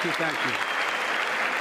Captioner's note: applause